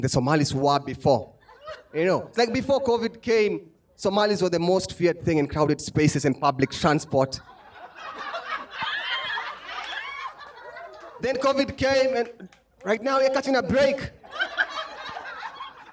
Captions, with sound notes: the Somalis were before. Before COVID came, Somalis were the most feared thing in crowded spaces and public transport. [LAUGHTER] Then COVID came, and right now, we're catching a break.